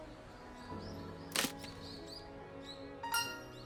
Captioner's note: crunch*!